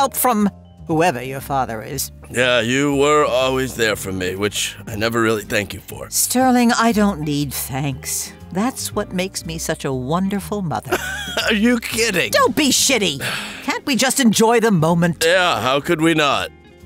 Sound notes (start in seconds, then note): 10.9 laughs; 13.1 sighs